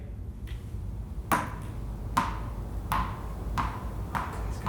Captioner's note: bouncing